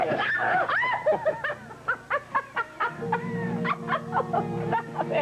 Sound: laughs

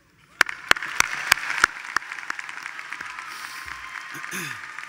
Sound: attendees applauding

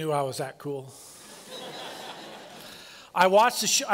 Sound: laughter

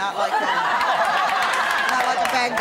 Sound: laughter

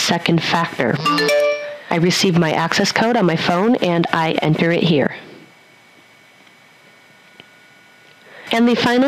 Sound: sound of Mobile Phone

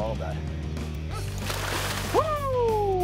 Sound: water splashing

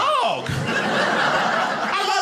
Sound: audience laughing

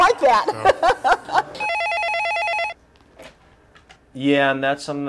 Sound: phone ringing

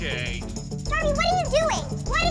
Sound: high-pitched voice

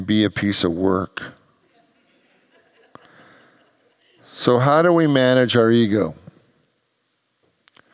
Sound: congregants laugh

